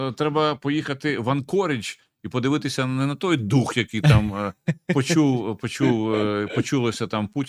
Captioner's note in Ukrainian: прочищення горла